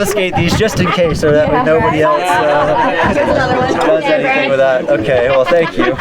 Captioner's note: laughter